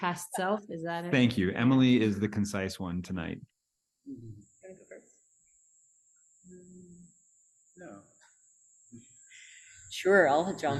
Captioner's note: cicadas